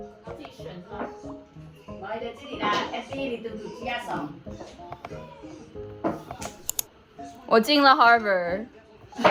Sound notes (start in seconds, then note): 1.8 more fuzhounese i don't understand sorry my goats; 9.1 they're laughing again 😭😭